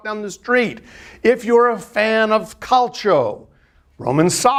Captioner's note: speaking in foreign language